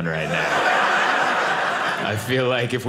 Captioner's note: audience laughing